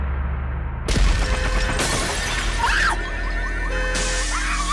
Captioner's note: glass shatters; car alarm blares; Abby shrieks; glass shatters